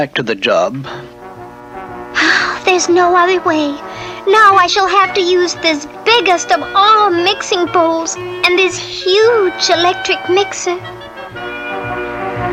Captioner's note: sighs; electric Mixer turns on